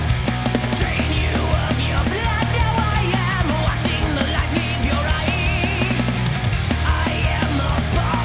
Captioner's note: none